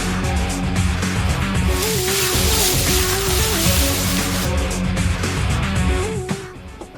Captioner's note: leaves rustling; music fades